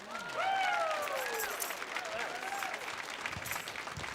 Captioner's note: audience applauding